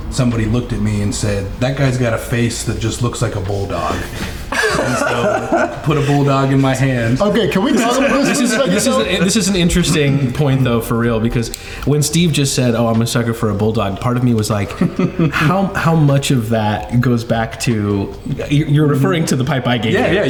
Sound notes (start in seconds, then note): 4.5 laughing